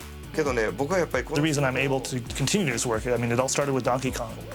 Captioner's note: speaking japanese